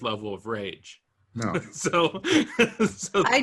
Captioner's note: laughs